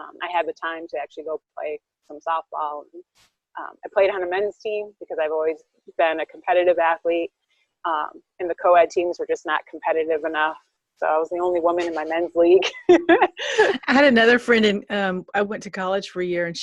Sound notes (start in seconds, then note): 12.8 laughing